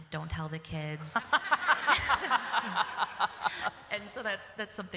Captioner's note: laughter